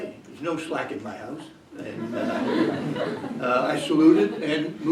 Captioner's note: laughter